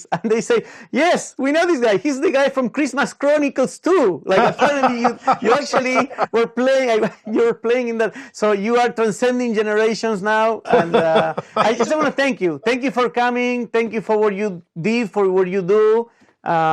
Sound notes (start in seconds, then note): 4.3 laughs